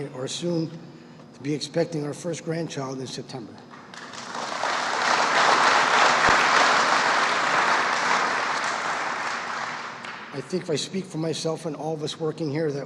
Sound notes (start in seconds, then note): 3.8 applause